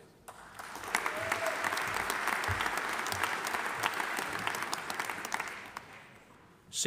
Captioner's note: audience applauding; audience cheering